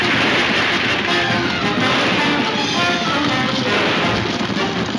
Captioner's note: gunshots banging